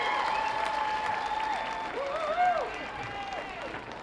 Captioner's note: cheers and applause